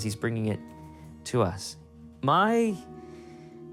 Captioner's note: none